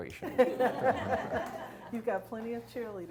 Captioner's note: audience chuckles